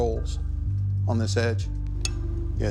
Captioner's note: ticking sound